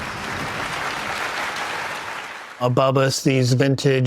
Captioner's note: audience applauding